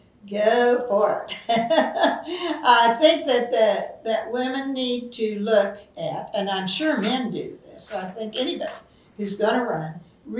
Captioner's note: laughs